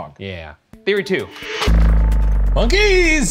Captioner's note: transition whirring